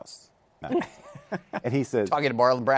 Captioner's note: laughs